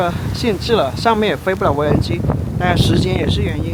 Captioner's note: too much wind